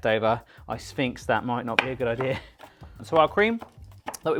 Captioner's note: chuckles